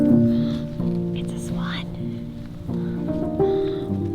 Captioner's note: gasp